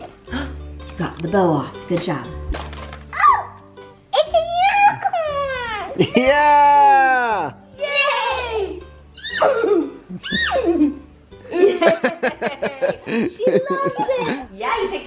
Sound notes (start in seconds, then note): 0.2 gasp; 9.5 horse neighing; 11.4 laughing